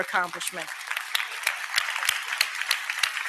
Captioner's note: applause